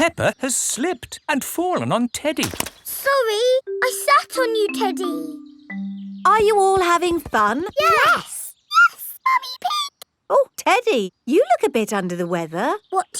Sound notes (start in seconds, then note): 8.7 in high-pitched voice